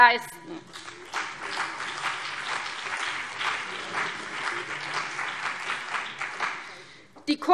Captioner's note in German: Beifall CDU und BÜNDNIS 90/DIE GRÜNEN